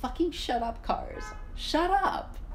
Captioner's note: rebellious toot